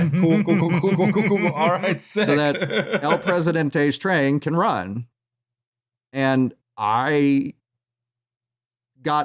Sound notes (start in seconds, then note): 0.0 chuckles; 2.7 laughs